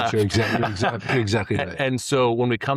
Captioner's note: laughing